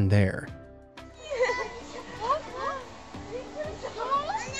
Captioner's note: woman laughing